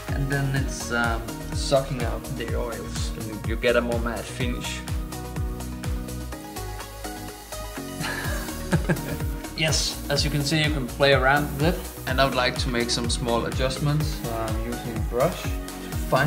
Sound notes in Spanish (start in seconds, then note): 8.0 risas